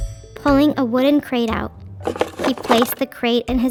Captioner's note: crate clattering